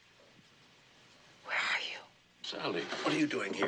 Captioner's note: whispering